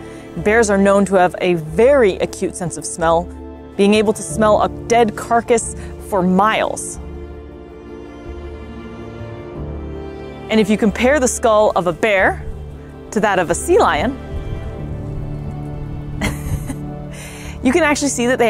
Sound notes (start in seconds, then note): 7.1 background music; 14.3 background music; 16.2 chuckles